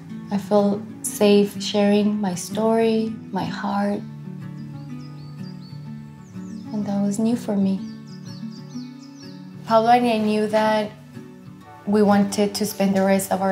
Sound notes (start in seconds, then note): 4.4 birds chirping; 4.4 upbeat music